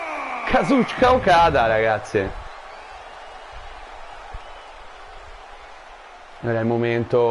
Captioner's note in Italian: Applauso